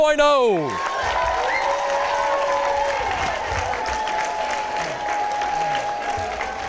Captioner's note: applause, cheering